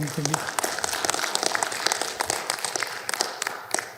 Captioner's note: audience applauding